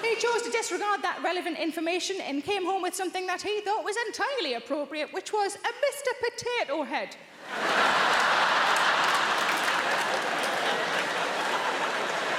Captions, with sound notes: He chose to disregard that relevant information and came home with something that he thought was entirely appropriate, which was a 'Mr. Potato Head'! (audience laughing)